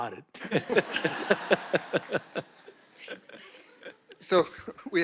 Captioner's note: audience laughing